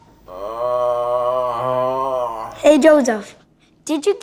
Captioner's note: groans